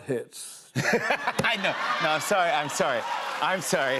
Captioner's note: laughs